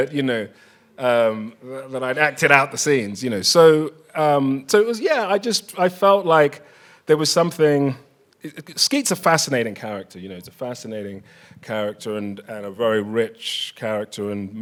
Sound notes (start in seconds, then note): none